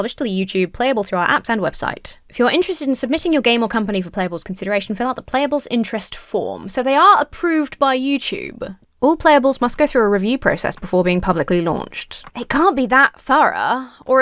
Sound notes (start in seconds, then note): none